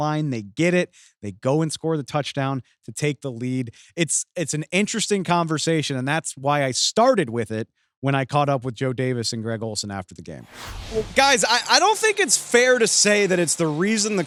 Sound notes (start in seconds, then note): 10.3 whoosh